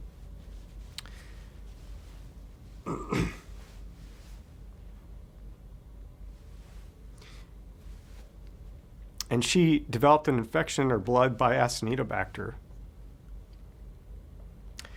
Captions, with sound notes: [clears throat] And she developed an infection in her blood by an acinetobacter.